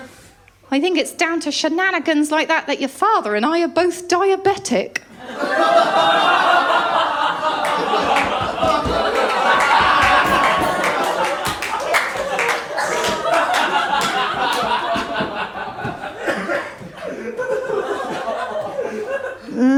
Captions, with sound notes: "I think it’s down to shenanigans like that that your father and I are both diabetic." [LAUGHTER] [AUDIENCE APPLAUSE]